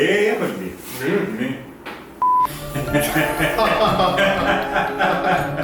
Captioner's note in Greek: γέλια